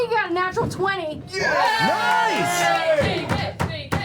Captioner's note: cheering